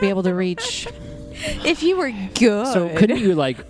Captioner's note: laughs